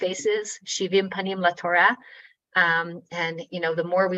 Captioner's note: speaking in foreign language